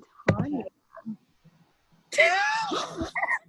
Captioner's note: laughing